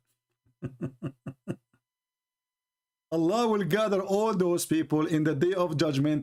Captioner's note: Ketawa